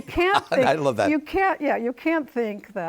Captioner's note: laughs